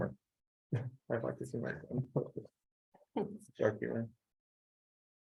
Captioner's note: laughing